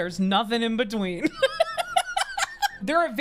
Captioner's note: laughing